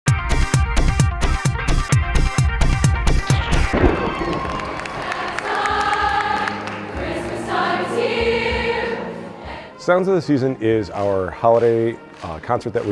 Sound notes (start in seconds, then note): 0.2 upbeat music; 3.2 audience clapping; 4.4 school choir singing